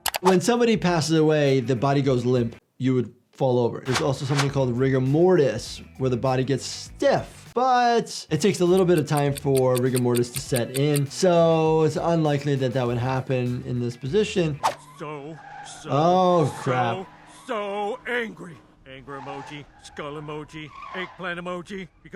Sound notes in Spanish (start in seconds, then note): 17.9 chirrido de neumáticos